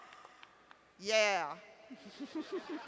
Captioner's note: laughter